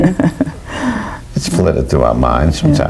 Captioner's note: laughs